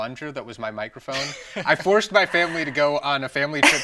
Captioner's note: laughs